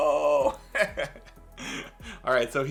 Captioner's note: laughing